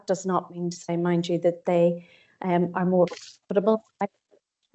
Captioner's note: audio distorts 27.46